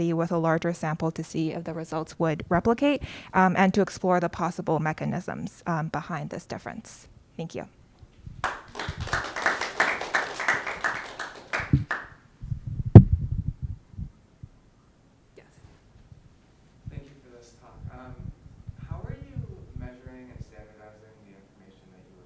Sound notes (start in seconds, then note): 8.4 audience clapping